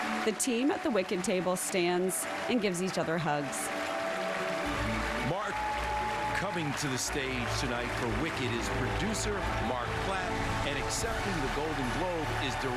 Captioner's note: cheers and applause